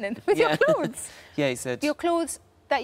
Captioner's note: laughs